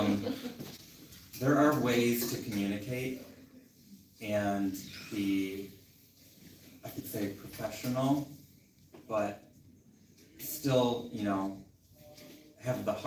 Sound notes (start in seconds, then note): 0.0 laughter